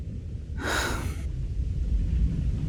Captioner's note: Henry sighs